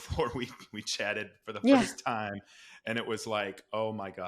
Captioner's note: laughs